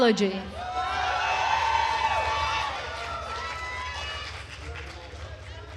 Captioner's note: attendees cheering and applauding